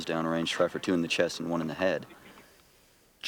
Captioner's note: voiceover